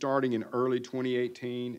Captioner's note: none